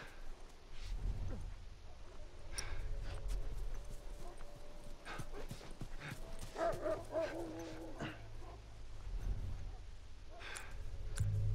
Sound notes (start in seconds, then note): 6.0 dogs barking